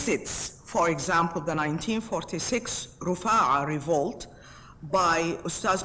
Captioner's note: speaks foreign language